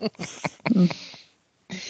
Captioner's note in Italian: Risate